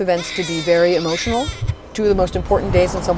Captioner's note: baby crying